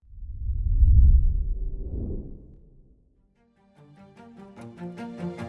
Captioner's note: whoosh; upbeat music